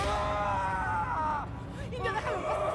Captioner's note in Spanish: grito